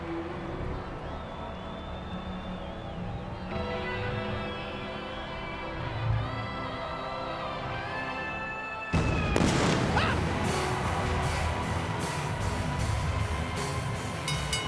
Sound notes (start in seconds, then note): 8.9 explosion booms; 9.4 Jerry squeals; 11.5 spooky dramatic music; 14.2 bell rings